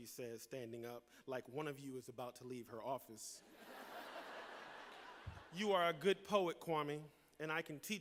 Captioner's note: laughter